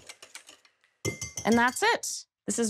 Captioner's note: whisk banging